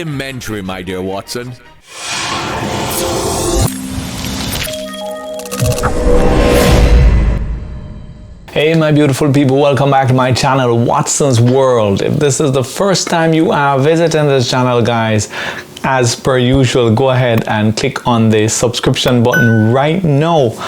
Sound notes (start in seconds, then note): 1.8 chiming sounds